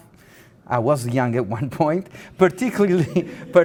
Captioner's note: laughing